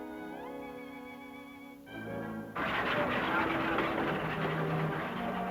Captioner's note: car engine chugging